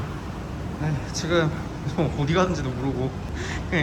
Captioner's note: laugh